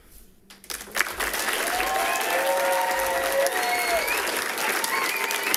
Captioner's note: people cheering and clapping